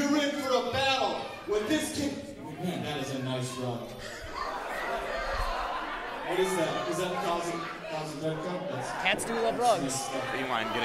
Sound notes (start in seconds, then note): 4.6 laughter